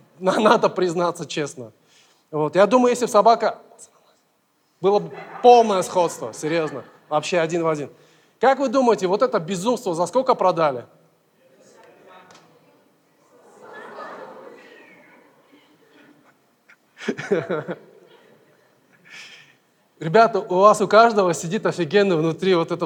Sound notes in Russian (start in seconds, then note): 11.4 голоса из зала; 16.7 смеется